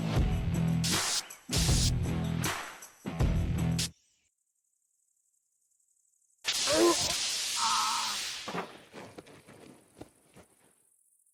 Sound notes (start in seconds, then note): 0.5 electric shocks; 6.4 electric shock